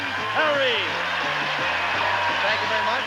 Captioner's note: audience cheering